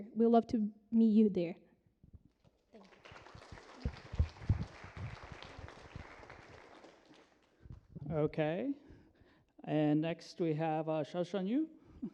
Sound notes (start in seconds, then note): 2.7 applause